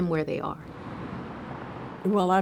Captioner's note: car engine revving